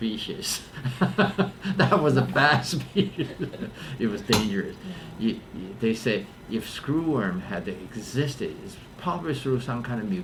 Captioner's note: laughs